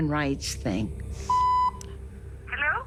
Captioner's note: machine beeps